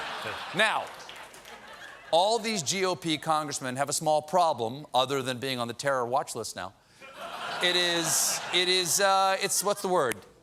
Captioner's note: laughter